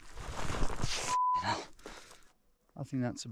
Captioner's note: beep